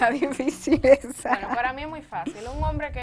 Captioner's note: laugh